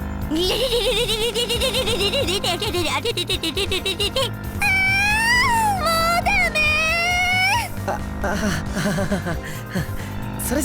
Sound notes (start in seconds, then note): 1.8 brrrrrrrrrrrrrrr; 5.0 even louder moan; 7.8 awkward laugh